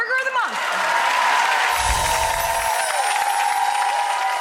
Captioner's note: audience applauds